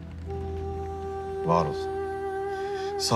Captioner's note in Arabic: يتنهد افنان